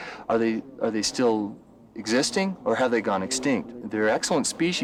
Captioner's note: none